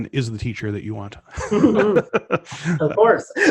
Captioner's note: both laugh